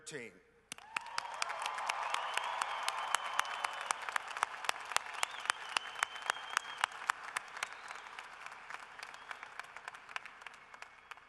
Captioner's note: cheering and applause